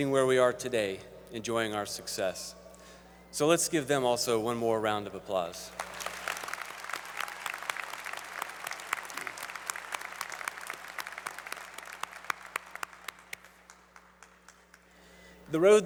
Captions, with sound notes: where we are today enjoying our success. So, let's give them also one more round of applause. [ Applause ]